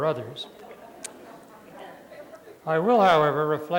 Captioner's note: laughter